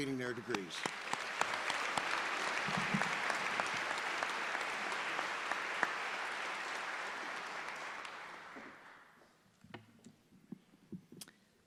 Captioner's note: applause